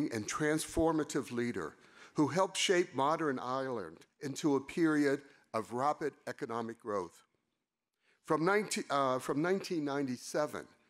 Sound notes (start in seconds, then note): none